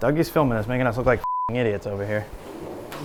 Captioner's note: beep